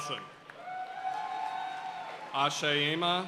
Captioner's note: audience cheering and applauding